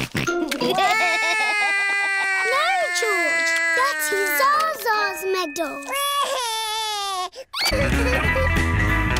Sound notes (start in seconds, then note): 0.6 george laughs; 0.7 cries; 6.4 cries